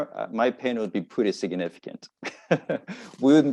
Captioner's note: laughs